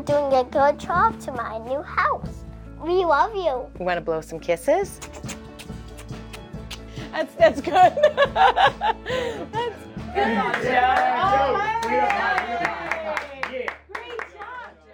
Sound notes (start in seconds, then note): 7.7 laughs; 13.0 applause